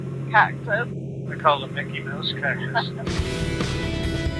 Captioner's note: laughs